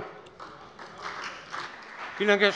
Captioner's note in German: Beifall bei der CDU und dem BÜNDNIS 90/DIE GRÜNEN